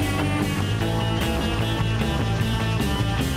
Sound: helicopter blades spin

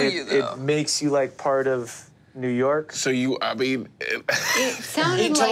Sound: laughs

